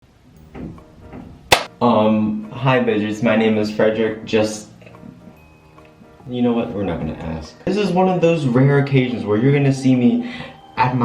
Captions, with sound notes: *CLAP* Um, hi, bitches, my name is Fredric just... You know what? We're not gonna ask. This is one of those rare occasions where you're gonna see me at my...